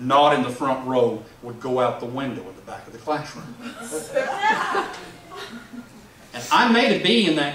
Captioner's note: laughs